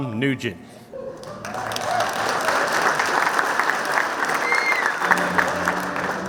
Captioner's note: clapping